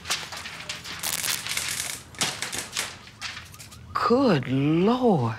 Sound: papers fluttering; electricity crackling; papers fluttering

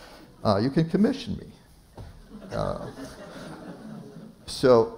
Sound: laughter

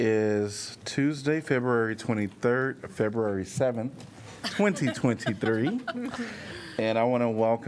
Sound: laughter

